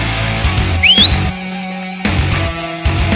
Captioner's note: whistling